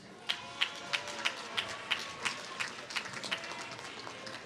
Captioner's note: applause